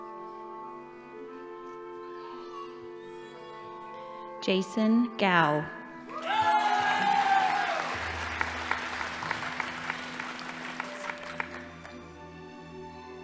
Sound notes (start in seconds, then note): 6.1 crowd cheering; 6.1 audience applauding